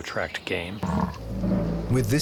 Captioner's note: bison grunts